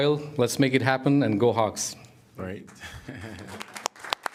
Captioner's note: applause